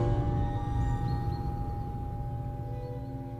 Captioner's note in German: Vogelgezwitscher